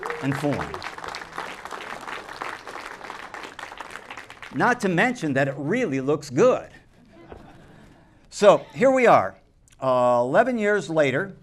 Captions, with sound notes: and form. Not to mention that it really looks good. [laughter] So here we are, 11 years later,